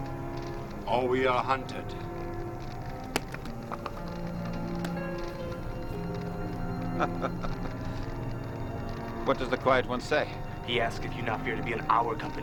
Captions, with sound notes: or we are hunted. (clapping hands) - (laughing) What does the quiet one say? - He asks if you not fear to be in our company.